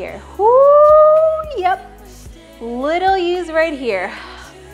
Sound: whooping

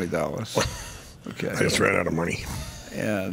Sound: chuckles

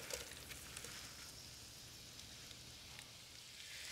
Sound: sizzling softly

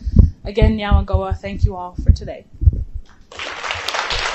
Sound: non-english; applause

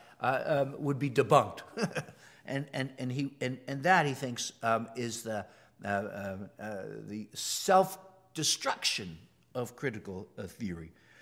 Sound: laugh

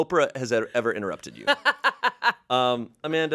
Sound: laughs

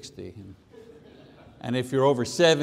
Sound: congregation laughs

